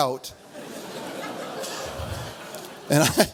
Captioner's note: audience laughs